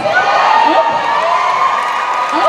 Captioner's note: cheering